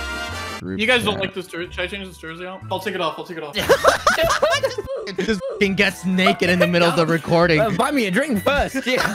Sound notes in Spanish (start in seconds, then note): 3.6 Risas